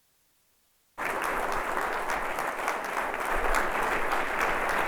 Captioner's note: audience applauds